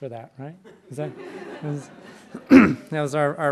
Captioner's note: laughter